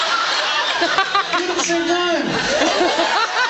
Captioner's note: laughs; in high-pitched voice